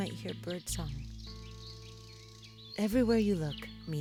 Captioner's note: birds chirping